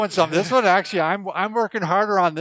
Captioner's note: laughing